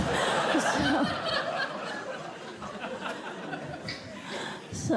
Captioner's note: laughter